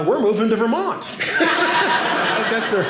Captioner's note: audience laughing